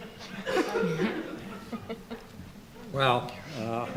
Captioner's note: laughs